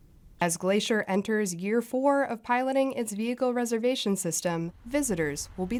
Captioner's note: voice-over